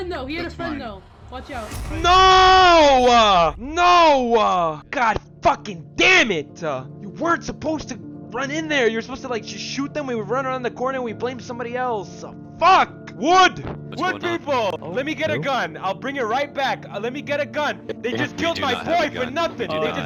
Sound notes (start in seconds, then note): 2.1 yells; 14.0 yells